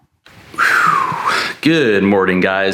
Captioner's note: exhales deeply